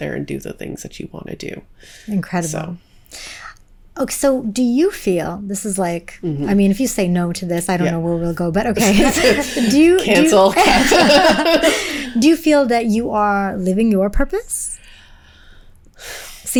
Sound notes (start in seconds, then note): 8.8 both laughing